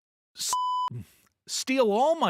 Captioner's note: beep